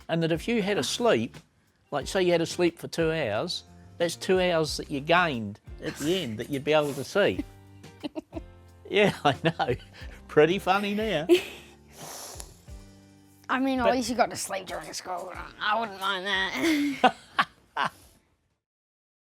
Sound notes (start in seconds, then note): 7.9 giggles; 16.4 laughs